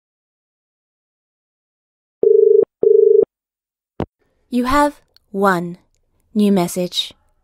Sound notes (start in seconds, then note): 2.8 dial Tone